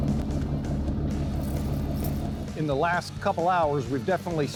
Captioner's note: boat engine chugging